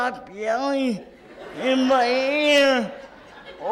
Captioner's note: audience laughs